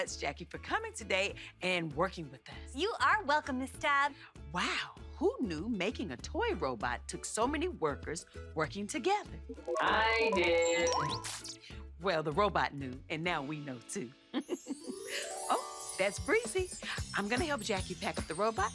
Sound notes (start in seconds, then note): 9.5 robot; 14.5 breezy chimes